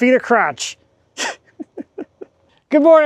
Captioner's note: chuckling